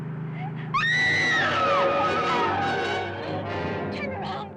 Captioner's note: Sheila screaming